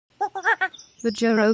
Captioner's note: monkey Noises